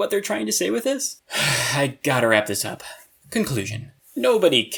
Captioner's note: sigh